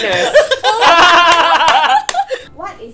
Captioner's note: laughs